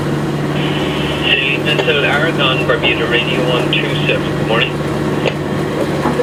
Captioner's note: radio